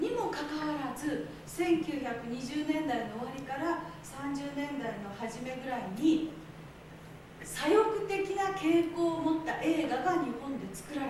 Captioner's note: speaking Japanes